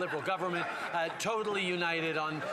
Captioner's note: some Applause